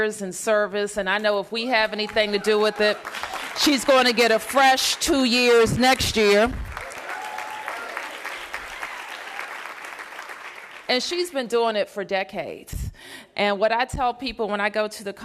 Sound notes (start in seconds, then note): 7.9 applause